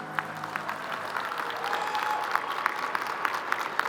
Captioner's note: crowd applauding